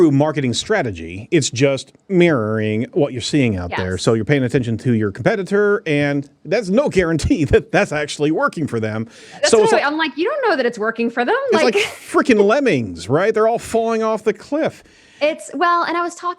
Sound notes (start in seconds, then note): 11.6 laughs